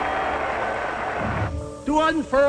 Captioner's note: crowd roars